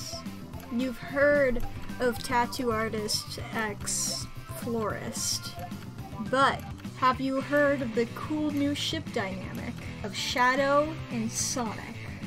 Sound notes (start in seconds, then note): none